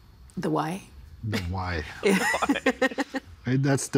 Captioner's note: others laughing